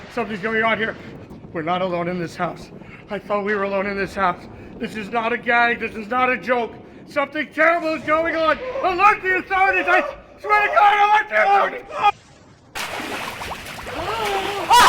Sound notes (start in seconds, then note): 12.2 liquid trickling; 13.9 screaming